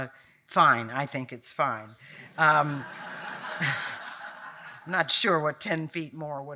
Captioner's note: audience laughing